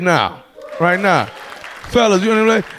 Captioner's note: audience clapping